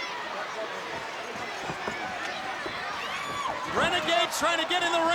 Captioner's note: crowd cheering